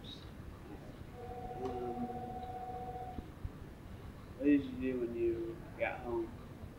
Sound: phone ringing

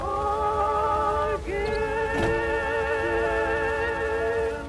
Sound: gear shifting

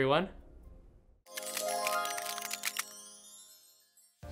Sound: crackling; magical chimes

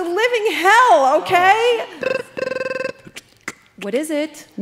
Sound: intercom buzzes

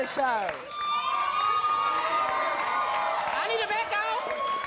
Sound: cheers

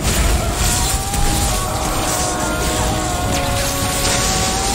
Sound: screaming

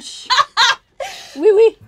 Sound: laughs

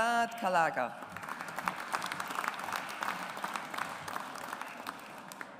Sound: audience applauds

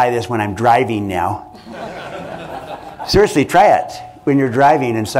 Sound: laughter

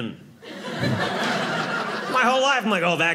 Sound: audience laughing

